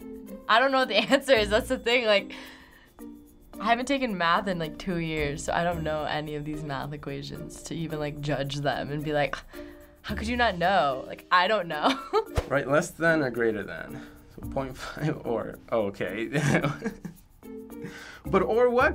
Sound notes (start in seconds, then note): 9.3 scoffing; 11.9 laughing; 16.3 chuckling